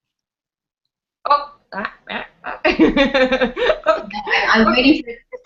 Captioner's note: laughs